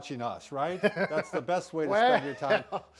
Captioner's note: laughs